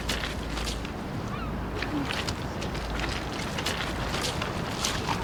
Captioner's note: seagulls cawing